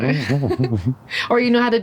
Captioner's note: laughing